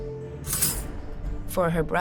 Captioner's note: metal rattling